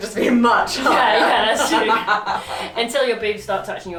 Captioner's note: laughs